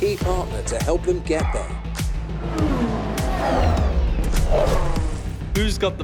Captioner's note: car engine roaring